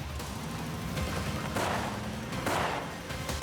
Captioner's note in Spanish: ruido del vehículo al acelerar